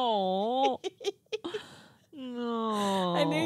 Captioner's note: giggling